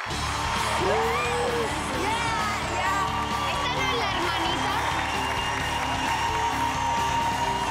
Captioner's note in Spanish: aplausos